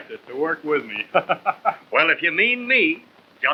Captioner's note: laughs